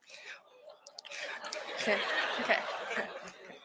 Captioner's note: laughter